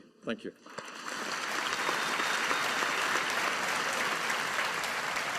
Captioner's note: audience applauding